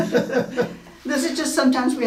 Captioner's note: laughing